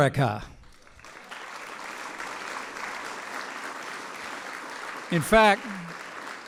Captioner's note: applause